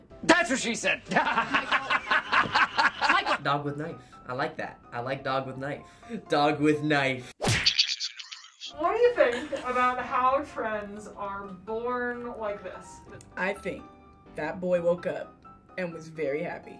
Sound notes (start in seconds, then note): 1.2 laughs; 7.4 splat; 7.7 voice-over